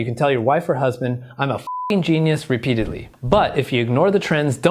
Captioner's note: beep